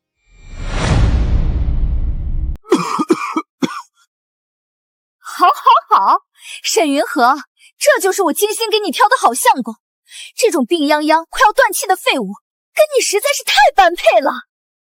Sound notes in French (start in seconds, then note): 2.6 Tousse